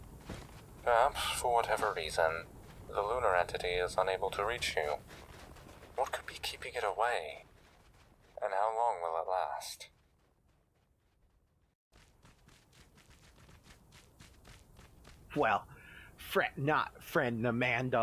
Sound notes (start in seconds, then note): 11.9 footsteps